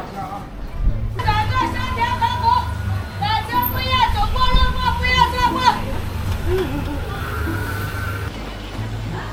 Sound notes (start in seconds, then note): 1.2 cries